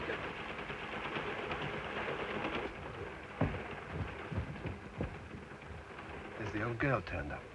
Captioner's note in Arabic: صوت خشخشة القطار